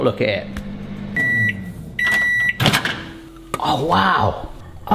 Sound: microwave beeping

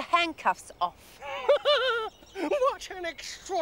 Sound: laughing

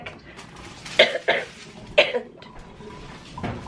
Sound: coughing

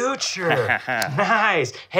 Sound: laughs

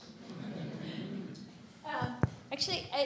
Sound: audience laughing

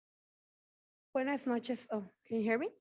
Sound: speaking in foreign language

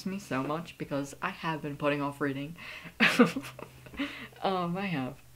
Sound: laughs

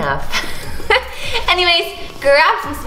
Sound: laughs

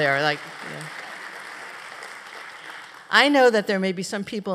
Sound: applause

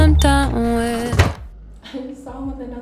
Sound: door banging

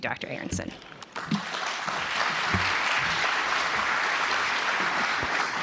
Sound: audience applauding

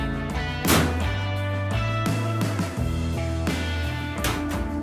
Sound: clanking door

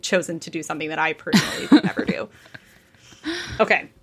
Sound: nervously laughing

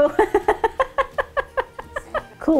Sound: laughing

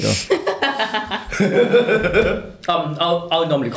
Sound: laughter

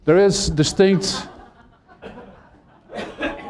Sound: laughter

